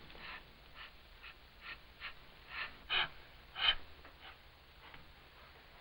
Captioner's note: panting